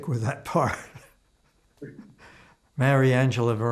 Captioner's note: laughing